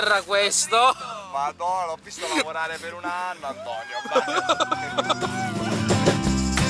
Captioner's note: laughs